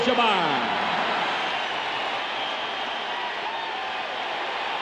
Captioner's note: cheers and applause